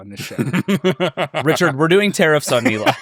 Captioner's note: laughing